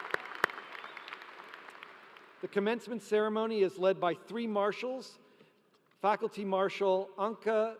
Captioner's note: applause